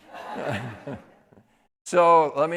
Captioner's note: audience laughing